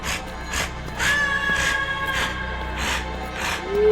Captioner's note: cry in the distance; heavy breathing